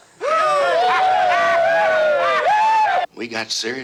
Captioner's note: cheering